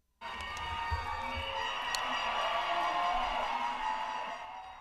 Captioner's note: people cheering